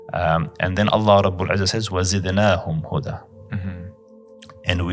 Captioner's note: Arabic